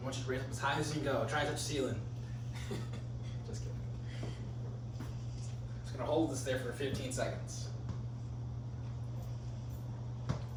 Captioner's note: laughing